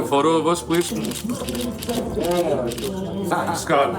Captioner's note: camera clicking